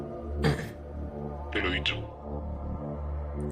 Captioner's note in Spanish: carraspea